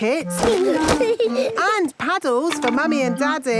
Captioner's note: giggling